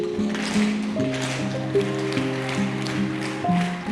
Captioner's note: shoes tapping